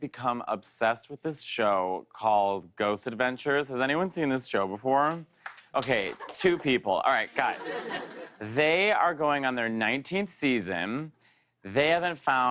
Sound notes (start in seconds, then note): 5.4 light applause